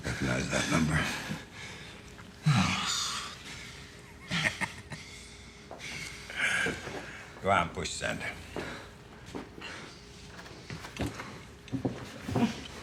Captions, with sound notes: Recognize that number? (Danny huffs) (Bob chuckles) Go on, push send.